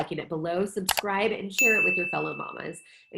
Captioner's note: bell dinging